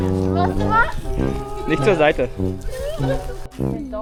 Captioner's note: speaking German